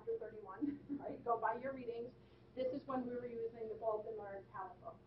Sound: laughing

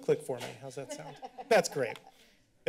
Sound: laughter

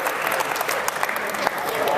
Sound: claps

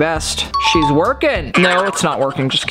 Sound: ding

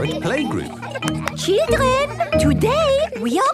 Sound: clapping

